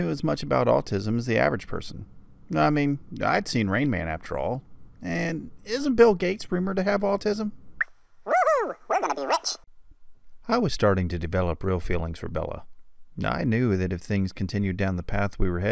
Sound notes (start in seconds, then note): 7.0 funny voice; 9.4 normal voice